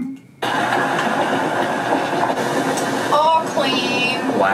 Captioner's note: machine whirring